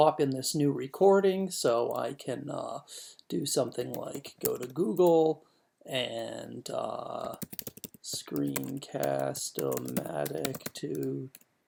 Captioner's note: typing